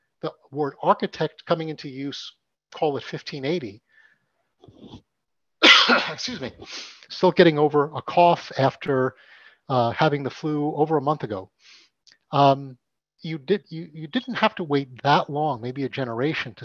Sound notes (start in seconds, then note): 5.6 coughs